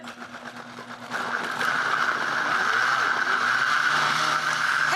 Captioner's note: blender buzzing